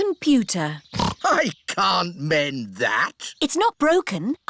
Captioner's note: snorts